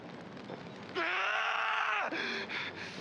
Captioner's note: scream